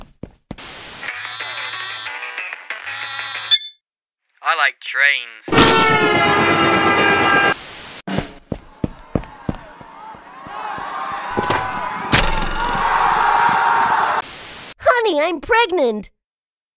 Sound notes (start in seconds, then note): 0.8 phone rings; 8.5 crowd cheers; 12.2 crowd reeeeally cheers